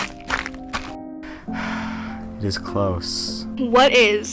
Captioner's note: sighs